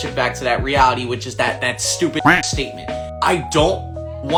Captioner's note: quacking